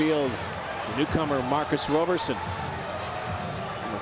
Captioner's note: applause